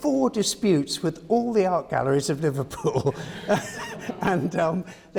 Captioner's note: laughs